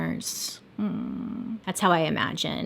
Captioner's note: humming